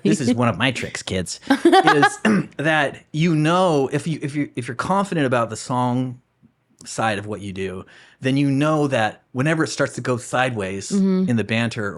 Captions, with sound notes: This is one of my tricks, kids. (laughing) That you know, if you're confident about the song side of what you do, then you know that whenever it starts to go sideways in the banter,